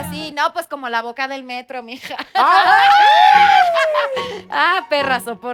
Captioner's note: collective gag